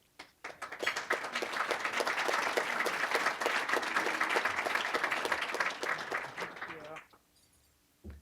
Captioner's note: applause